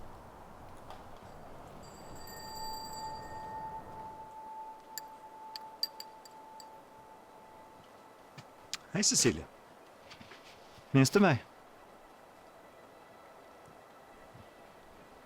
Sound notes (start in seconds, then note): 1.6 eerie ambient music; 1.8 A bell rings